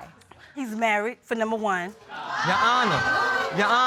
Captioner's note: audience exclaims